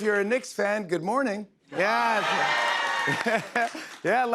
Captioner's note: cheers and applause